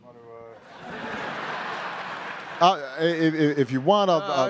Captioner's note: attendees laughing